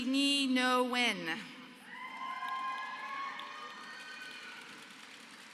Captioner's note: applause